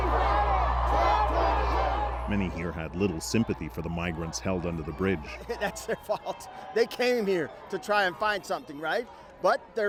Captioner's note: chanting